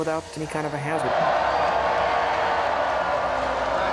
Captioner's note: cheering